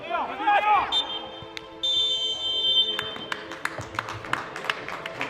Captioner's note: referees half-time whistle; clapping